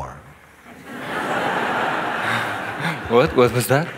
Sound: laughter

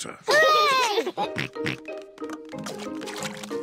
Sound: peppa and george cheer

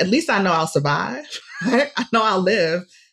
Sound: laughs

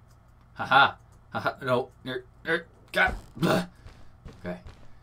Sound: stuttering

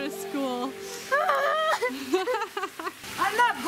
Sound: crying; laughs

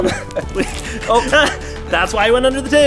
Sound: laugh

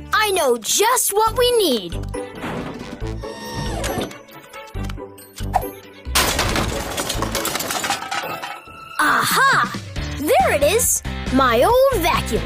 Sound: clanking

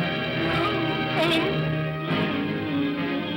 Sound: suspenseful music; Scrooge cries out; Scrooge moans; ominous upbeat music

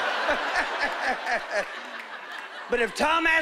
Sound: laughing

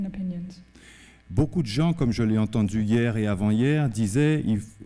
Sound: speaking french

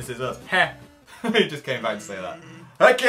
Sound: laughs

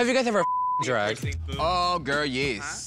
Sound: beep

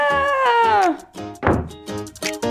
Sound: slam!

